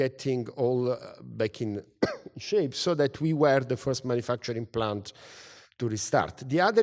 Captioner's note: cough